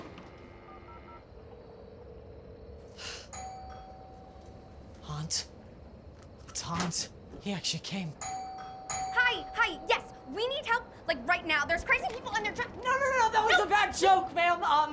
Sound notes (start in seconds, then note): 0.0 phone ringing; 0.0 dial tone ringing; 2.9 bucky sighs; 3.4 doorbell ringing; 8.2 doorbell ringing